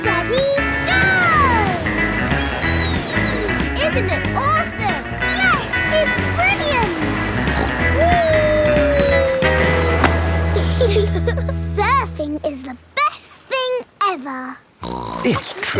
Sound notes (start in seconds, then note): 8.5 snorts; 10.2 giggle; 14.8 snorts